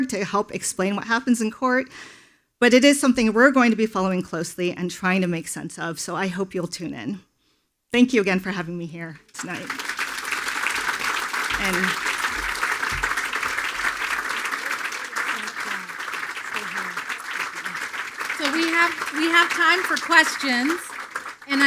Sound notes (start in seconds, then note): 10.1 attendees applauding; 14.8 speaking faintly